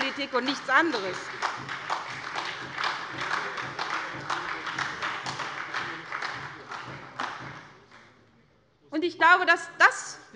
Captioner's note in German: Beifall bei der SPD